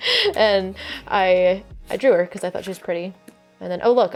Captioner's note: laughs